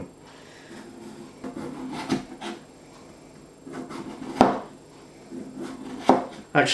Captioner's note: the sound of a potato being cut